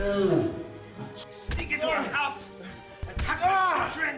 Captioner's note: Jefferson screaming in pain